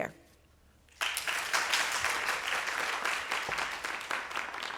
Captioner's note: applause